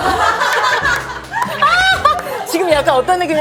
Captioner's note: hahaha